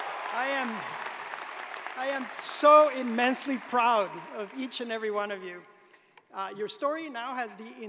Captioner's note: cheers and applause